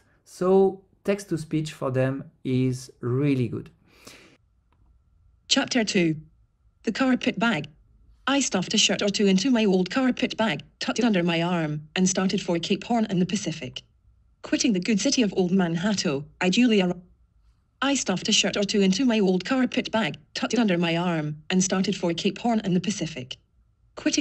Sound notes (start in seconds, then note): 5.6 TTS Voice